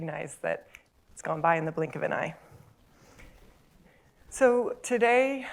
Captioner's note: snap